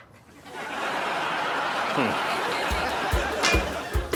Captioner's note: audience laughing